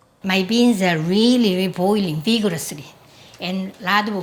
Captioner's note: none